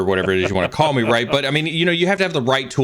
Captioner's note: laughing